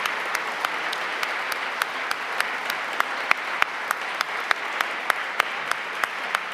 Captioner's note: applause